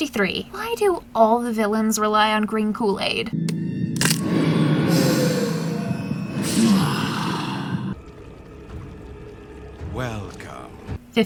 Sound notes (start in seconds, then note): 6.3 satisfied sigh